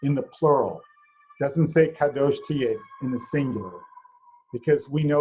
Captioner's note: hebrew